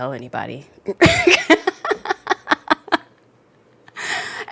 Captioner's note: laughs